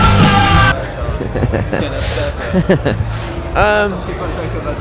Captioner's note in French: Rires